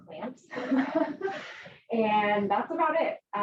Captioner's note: they laugh